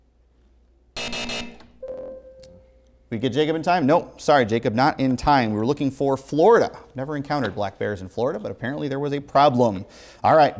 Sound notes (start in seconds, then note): 1.0 buzzing; 1.0 beeping